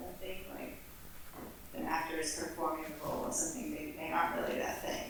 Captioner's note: none